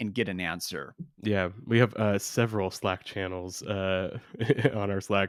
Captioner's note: laughs